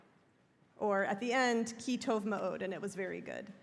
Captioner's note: hebrew